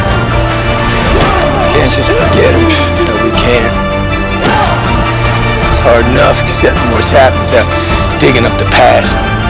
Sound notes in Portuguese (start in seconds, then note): 2.1 risos